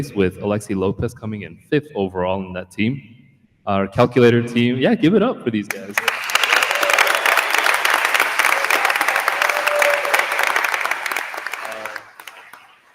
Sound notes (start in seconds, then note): 5.8 attendees applauding; 5.9 attendees cheering